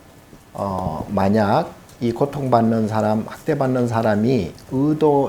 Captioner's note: speaking Korean